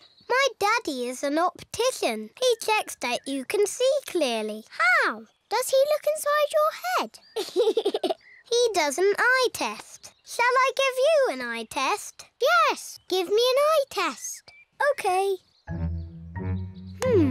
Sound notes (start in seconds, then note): 7.3 laughs